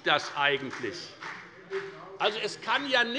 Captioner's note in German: Beifall bei der FDP